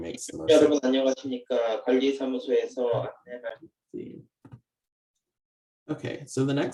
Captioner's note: translator speaks foreign language